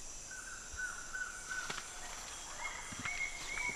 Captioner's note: wildlife calling in distance